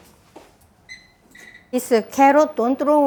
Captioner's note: electronic beeps